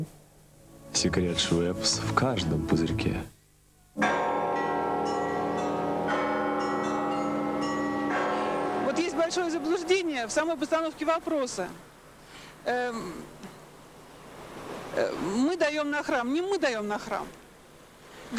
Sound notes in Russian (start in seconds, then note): 4.0 звон колоколов